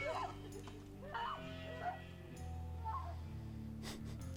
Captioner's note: chuckles; sobs; screaming; laughs